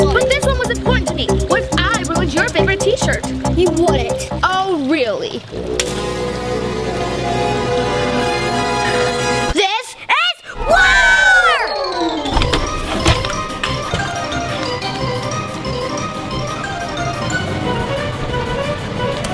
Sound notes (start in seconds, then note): 5.6 splashing; 6.9 climatic music; 12.9 upbeat exciting music